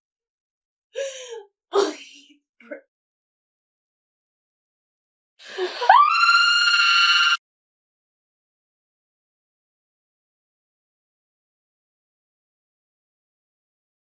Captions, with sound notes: [crying] Please, Brim. [long silence] [screams] [long intentional silence]